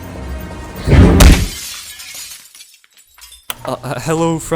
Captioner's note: suspenseful music; punch sound, glass shattering